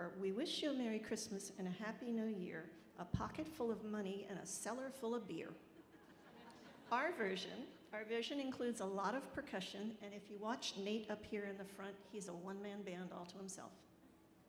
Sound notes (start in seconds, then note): 5.9 audience laughing